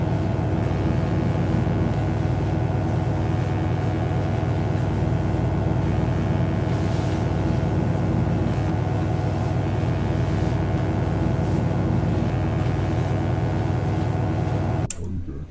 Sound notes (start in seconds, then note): 5.6 electric buzzing